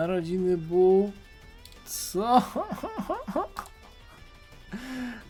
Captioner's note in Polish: śmiech